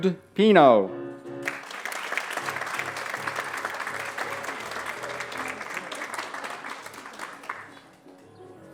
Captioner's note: applause